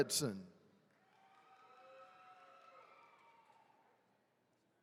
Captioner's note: attendees cheering